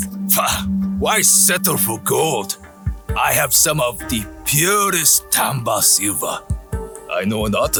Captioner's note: scoffs